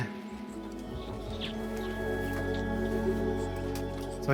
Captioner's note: mice squeaking